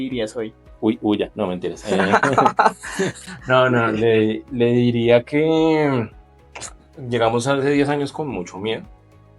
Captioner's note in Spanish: Risas